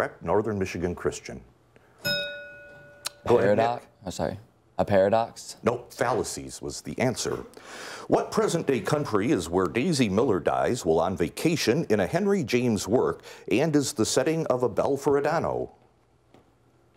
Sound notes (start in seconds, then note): 2.0 bell rings